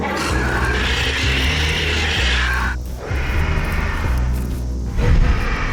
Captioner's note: continued screeches, roars